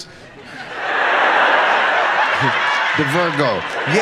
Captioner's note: audience laughs